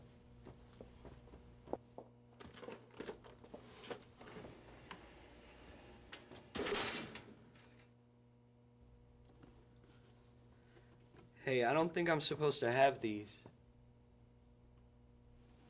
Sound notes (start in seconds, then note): 0.4 footsteps; 5.8 clanking